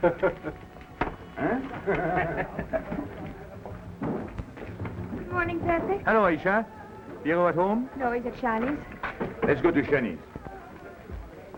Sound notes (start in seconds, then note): 1.3 both laugh; 1.4 Slimane laughs